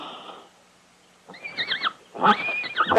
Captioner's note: horse neighing